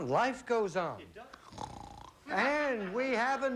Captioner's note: snoring